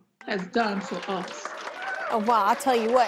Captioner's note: applause